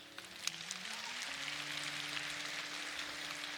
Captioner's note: applause